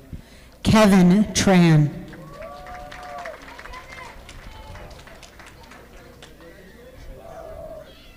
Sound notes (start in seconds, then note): 2.0 audience applauding